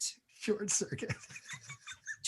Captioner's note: laughs